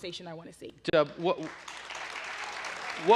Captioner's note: applause